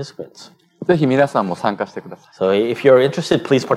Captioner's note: speaking japanese